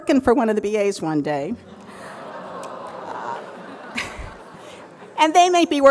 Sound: surprised audience

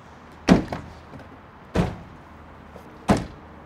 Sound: door shutting

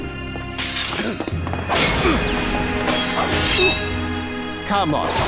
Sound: swords clanging

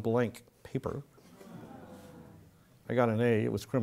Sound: laugh

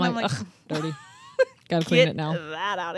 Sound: chuckles

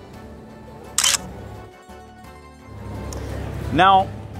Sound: camera clicks

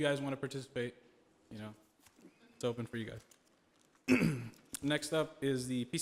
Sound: clears throat

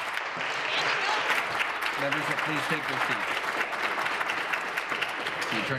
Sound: applause

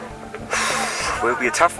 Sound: sighs

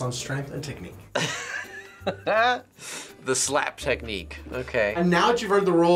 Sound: laughs

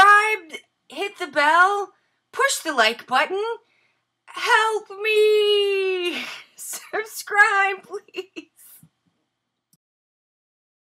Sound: laughing

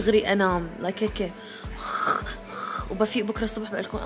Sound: snoring

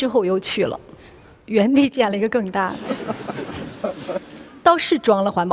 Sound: laughter

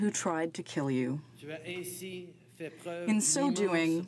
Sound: speaking french

